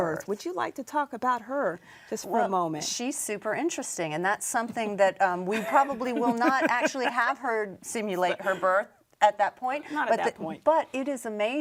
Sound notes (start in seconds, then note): 5.7 laughs